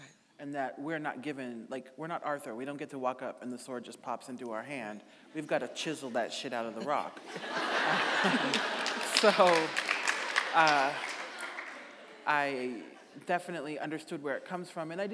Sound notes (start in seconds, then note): 6.7 audience laughing; 7.4 audience applauding